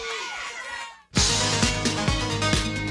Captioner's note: crowd cheering